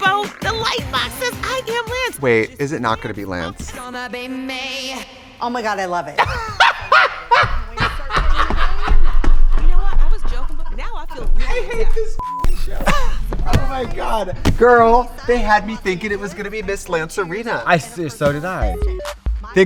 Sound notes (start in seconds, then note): 3.7 upbeat music; 6.2 Trixie laughs; 12.1 beep; 12.4 Katya laughs; 18.7 upbeat music